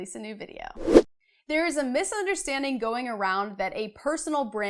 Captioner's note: air whooshing